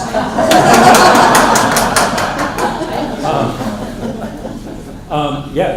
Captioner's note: laughter